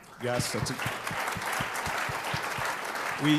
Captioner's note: applause